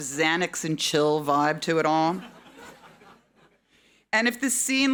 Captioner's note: audience laughing